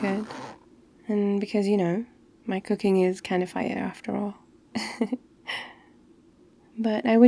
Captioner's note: laughs